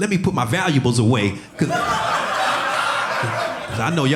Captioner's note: audience laughing